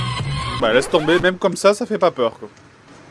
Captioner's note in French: Musique effrayante; disque rayé